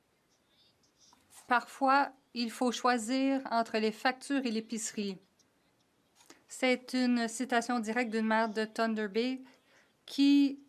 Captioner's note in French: voix de l'interprète